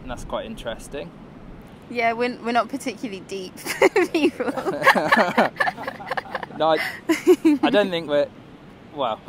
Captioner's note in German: lacht